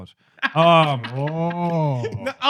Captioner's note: laughing